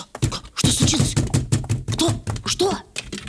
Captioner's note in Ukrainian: стукіт в двері